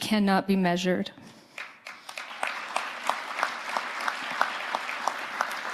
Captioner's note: audience applauding